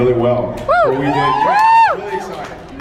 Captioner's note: cheers